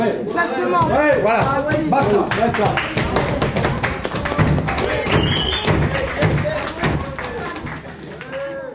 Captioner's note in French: applaudissement public